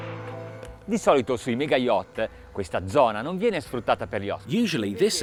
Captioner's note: speaking Italian